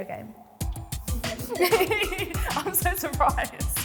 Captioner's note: chuckles